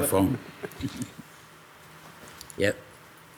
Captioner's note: group laughs lightly